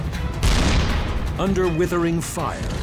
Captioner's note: tank turret firing